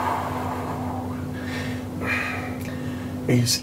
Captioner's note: exhaling